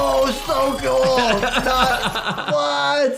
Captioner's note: laughs